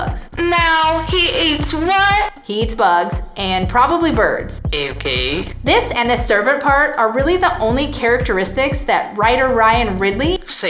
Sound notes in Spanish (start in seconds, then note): 0.3 acento de bella sureña